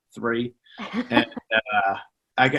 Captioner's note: laughing